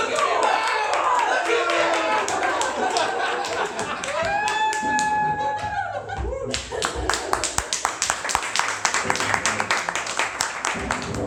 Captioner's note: laughter and applause